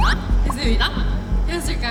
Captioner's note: heart pounding